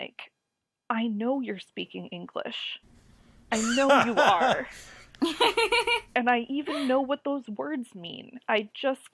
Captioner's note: laugh